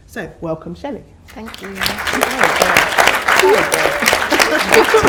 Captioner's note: audience applause